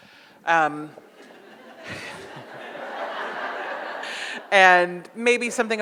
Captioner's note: audience laughs